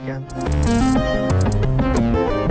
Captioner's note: beeping